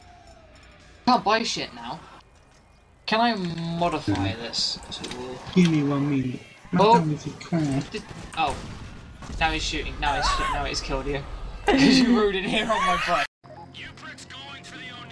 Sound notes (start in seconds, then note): 13.0 wheeze